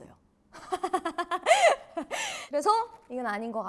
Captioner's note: ahahaha